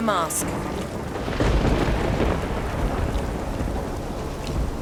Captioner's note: thunder crashes